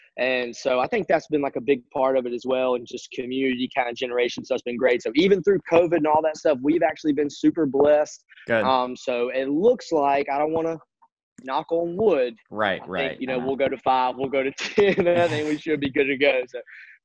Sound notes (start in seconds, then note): 14.7 chuckles